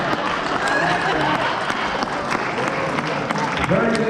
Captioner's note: laughter and applause